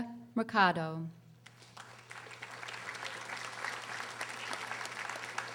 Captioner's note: audience applauding